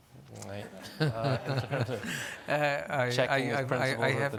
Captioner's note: laughing